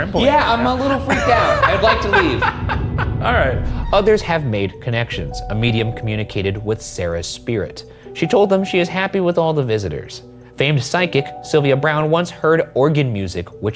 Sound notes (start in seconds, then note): 0.8 laughing